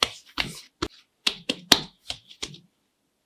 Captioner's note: satisfying pats